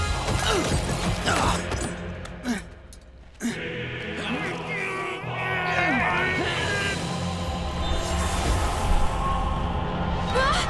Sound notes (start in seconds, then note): 0.1 grunting; 3.4 grunting